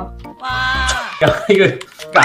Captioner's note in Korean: 와아아